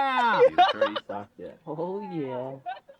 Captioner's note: whooping